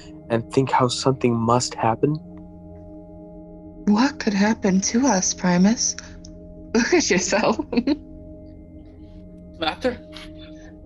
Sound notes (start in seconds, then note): 8.2 laughs